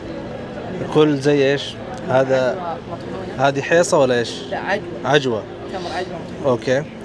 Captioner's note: Arabic